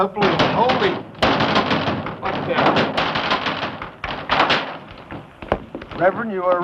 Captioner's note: pounding on door